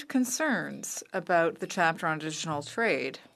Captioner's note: speaking French